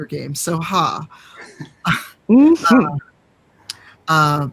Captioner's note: laughing